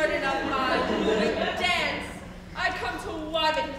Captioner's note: audience laughs